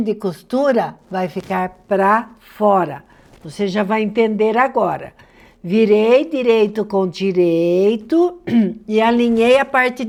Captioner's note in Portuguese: limpando a garganta